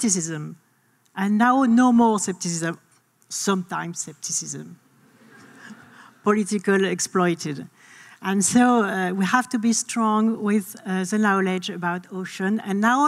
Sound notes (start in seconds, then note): 5.1 audience laughing